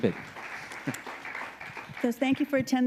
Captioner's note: audience applauding